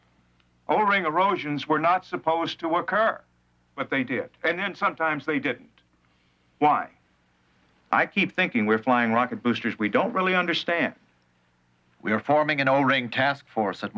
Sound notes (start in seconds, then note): none